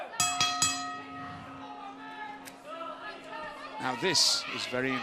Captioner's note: bell ringing